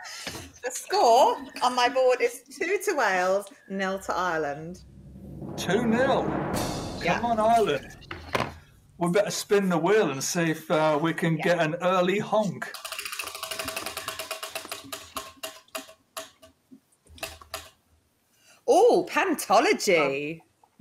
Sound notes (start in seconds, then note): 5.9 drum roll; 13.0 wheel ticking